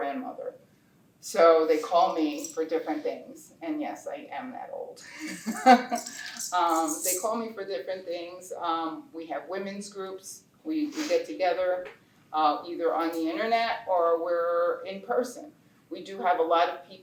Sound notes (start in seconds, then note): 5.0 laughter